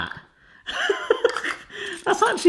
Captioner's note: laughs